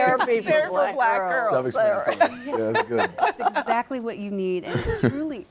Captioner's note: laughs